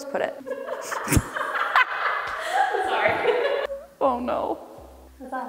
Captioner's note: laughing